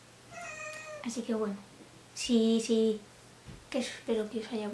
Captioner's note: meow